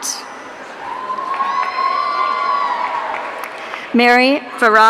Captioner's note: audience cheering